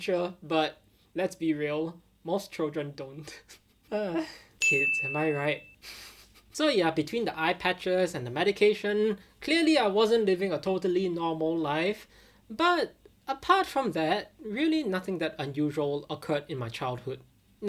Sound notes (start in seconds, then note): 3.2 chuckling; 4.0 groaning; 5.9 giggling